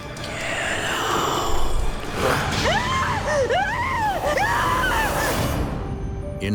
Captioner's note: screams